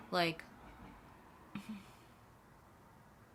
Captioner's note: ugh/hmmph